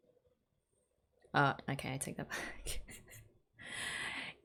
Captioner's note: laughs